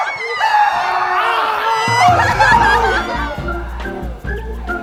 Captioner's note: people screaming